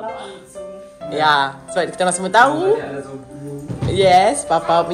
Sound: speaking German

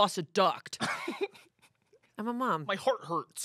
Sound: laughs

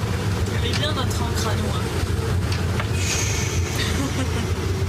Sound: speaking french

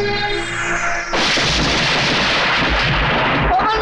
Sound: thunder

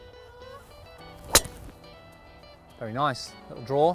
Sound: golf Ball being Hit

